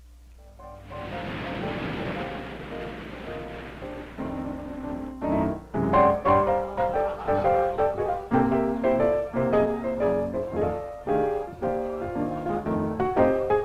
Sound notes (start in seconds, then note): 0.1 upbeat piano music; 0.7 waves crashing; 4.9 bright piano music playing; 6.2 guests chatting faintly